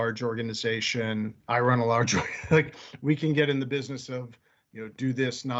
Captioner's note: laughing